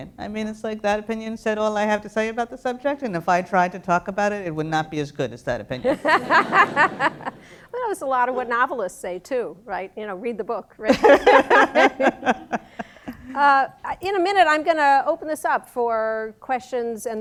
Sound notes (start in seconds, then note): 5.8 laughter; 10.9 both laugh